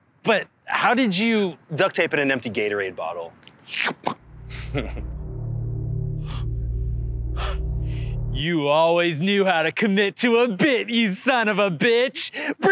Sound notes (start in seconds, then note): 4.2 ominous music; 4.4 imitates suction sound; 4.5 laughs